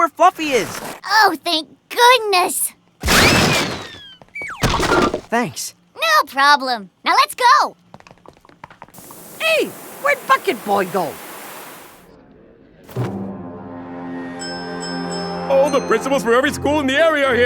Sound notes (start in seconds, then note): 3.0 hard punch